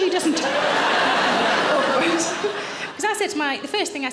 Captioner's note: audience laughing